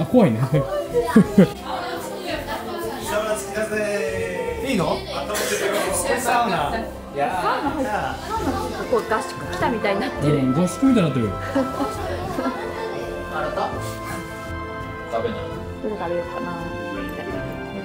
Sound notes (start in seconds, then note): 7.7 laughs